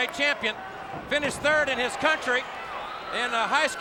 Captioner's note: body thudding